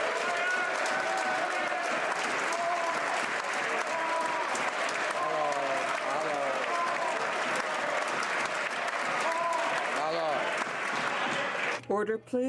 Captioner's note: some Applause